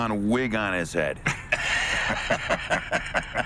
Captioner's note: laughing